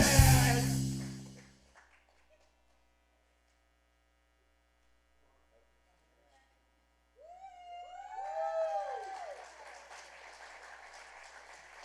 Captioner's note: applause